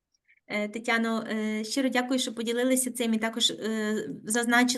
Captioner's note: speaking Ukrainian